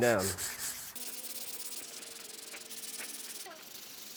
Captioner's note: scratching